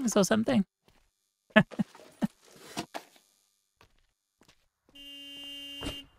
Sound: laughs

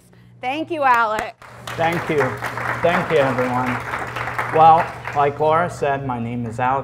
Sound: applause

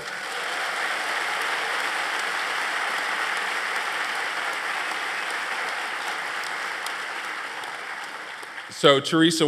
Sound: applause

